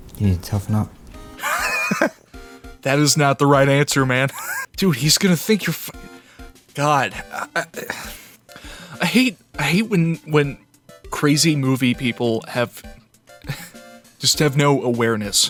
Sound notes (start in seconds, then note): 1.3 wheeze; 4.4 wheeze; 7.2 stammering